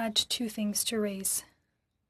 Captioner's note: speaking French